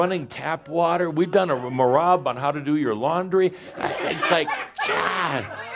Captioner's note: more laughter